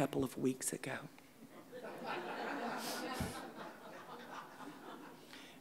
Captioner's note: audience laughing